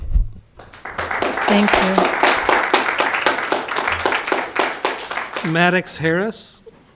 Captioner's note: audience clapping